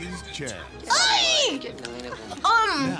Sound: yells

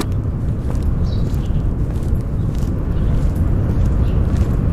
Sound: car door closing; footsteps

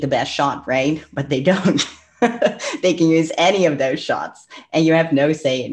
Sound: laughs

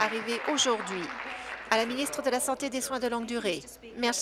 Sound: applause

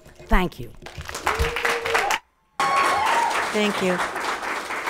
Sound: audience applauds; people cheer

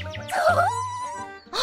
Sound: squee

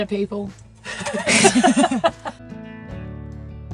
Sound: laughing

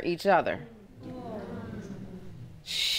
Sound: audience murmuring

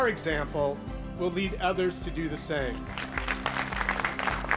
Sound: applause

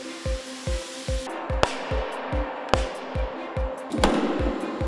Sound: hammer Pounding

